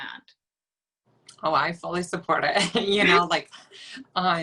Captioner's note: laughs